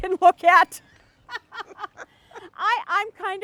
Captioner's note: they laugh